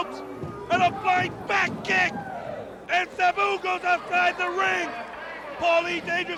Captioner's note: crowd chatter